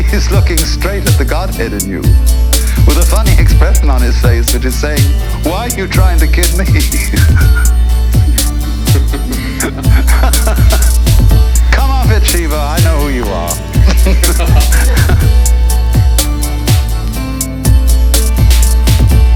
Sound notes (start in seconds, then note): 8.7 man laughs